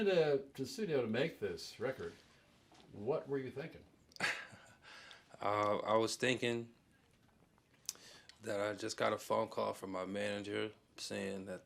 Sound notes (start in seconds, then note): 4.1 laughs